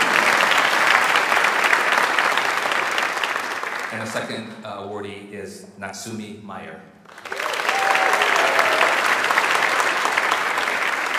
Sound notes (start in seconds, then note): 0.0 audience applauds; 7.0 audience applauds